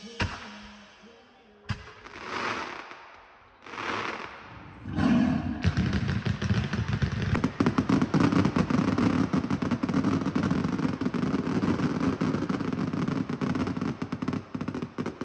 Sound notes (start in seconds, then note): 0.1 firecrackers boom; 4.6 tiger roars; 4.9 firecrackers bangs